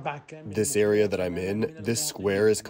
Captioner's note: through translator